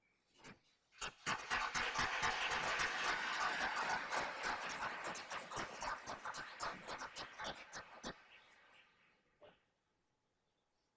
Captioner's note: applause